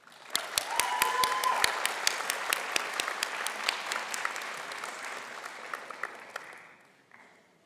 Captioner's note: applause